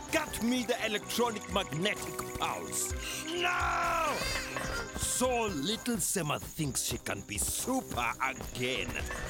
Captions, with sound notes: -Get me the Electronic Magnetic Pulse! -[shivering] -Now!!!! -[scared chattering] So little Sema thinks she can be Super... Again?